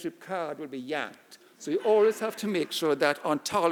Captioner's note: audience laughing